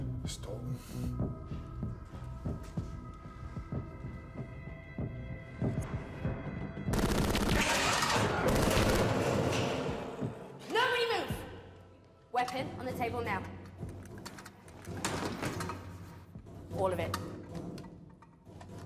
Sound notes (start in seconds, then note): 1.8 tense music; 6.9 gunfire echoing